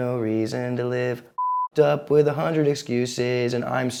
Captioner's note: beep